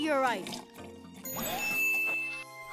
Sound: chiming

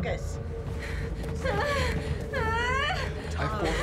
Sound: groaning

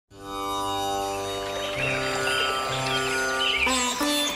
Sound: birds chirping

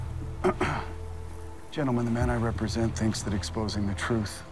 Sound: clears throat

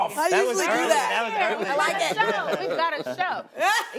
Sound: laughs

